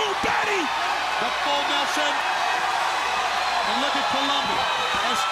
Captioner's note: crowd cheering